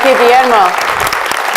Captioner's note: audience applause